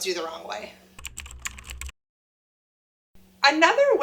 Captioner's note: computer keys tap